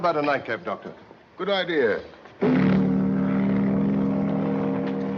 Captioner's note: horn Blowing